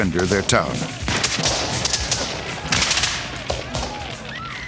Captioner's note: gunfire; yelling